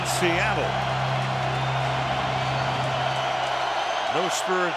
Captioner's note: cheering